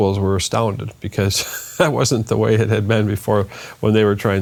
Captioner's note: laughs